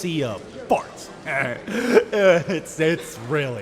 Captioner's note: chuckle